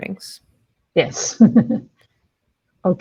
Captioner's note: laughs